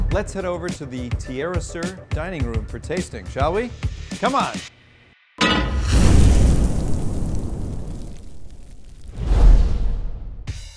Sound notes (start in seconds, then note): 5.4 pan clanks; 5.8 burst of flames